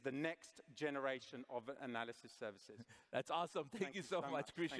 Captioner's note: laughter